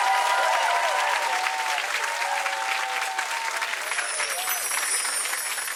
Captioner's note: audience clapping